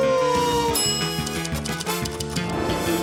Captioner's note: bell dings